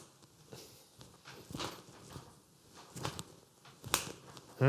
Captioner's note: snaps fingers